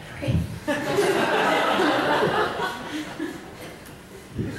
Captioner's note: audience laughs